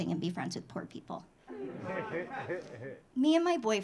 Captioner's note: audience laughing